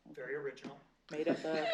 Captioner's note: laughter